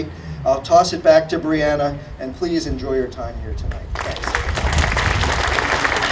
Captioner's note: audience applauding